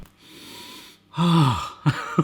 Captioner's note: sniffs; laughs